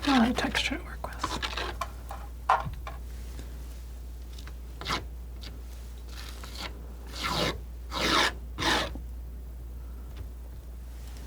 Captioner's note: scratching